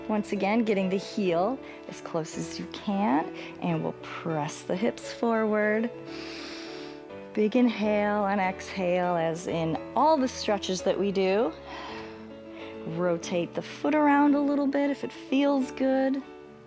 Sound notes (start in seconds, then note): 6.0 inhales; 11.6 exhales